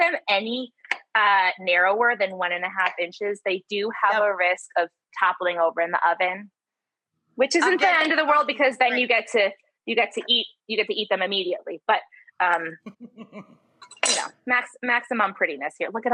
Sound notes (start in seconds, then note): 12.6 laughs